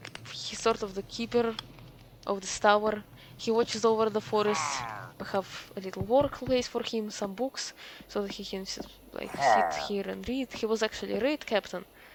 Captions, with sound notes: he's sort of the keeper of this tower, he watches over the forests. *pillager sound of agreement* we have a little workplace for him, some books, so that he can ss- like, sit here and read. he was actually a raid captain,